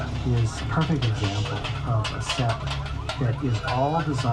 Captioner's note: car alarm beeps; car horn honks